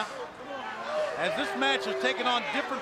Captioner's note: crowd chatter